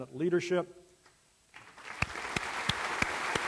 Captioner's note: applause